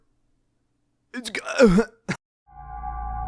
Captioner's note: choking sound; electronic hum